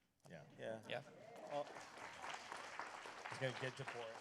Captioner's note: applause